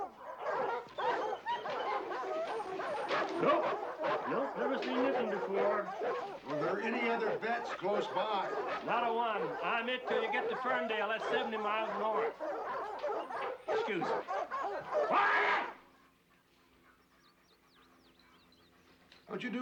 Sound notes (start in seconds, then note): 15.3 whimpering